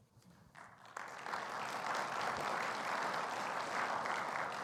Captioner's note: audience applauding